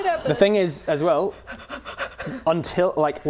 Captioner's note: breathing rapidly